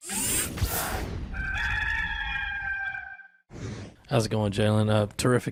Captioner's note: cock crowing